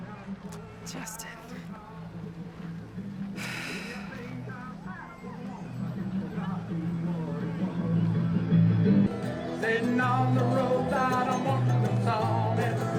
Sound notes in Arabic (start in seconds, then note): 3.3 تنهدات; 5.2 ثرثرة الحشود، تضحك